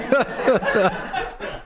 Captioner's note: laughter